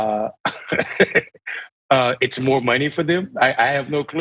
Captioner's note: laugh